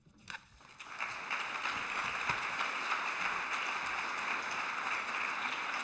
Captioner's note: applause